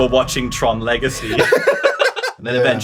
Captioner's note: laughter